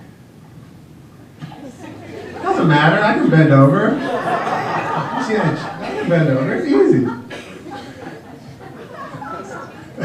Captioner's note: laughter from audience